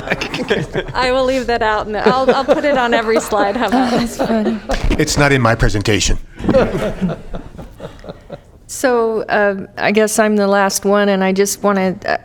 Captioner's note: laughter